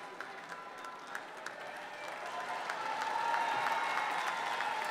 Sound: applause

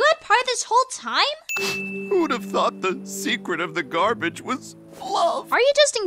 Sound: sniff

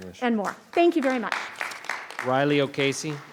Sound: audience clapping

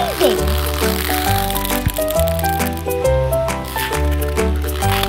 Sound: slime stretching; upbeat music

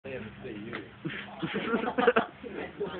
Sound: laughter

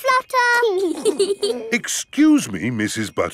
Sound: both giggling

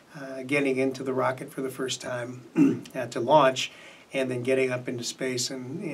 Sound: clears throat

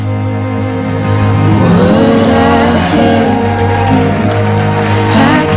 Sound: guests cheer

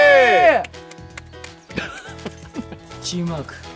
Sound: slow claps

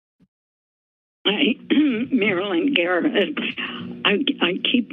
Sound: clears throat

